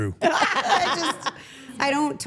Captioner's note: everyone laughs